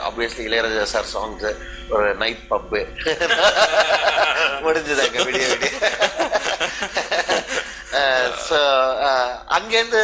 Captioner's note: laughs